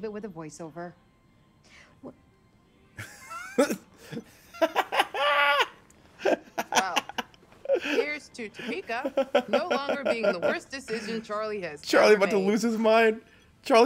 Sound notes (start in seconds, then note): 3.0 laugh